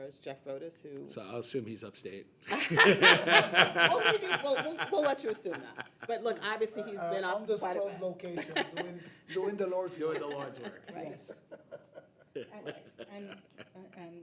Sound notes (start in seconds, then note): 2.5 people laughing; 11.9 people laughing